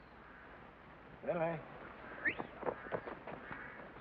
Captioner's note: whistles